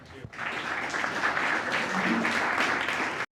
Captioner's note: applause